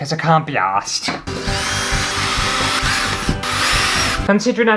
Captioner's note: drill Sounds